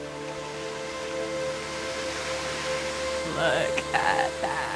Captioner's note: water splashing